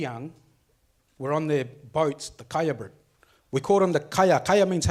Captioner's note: speaks foreign language